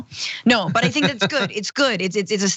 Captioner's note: laugh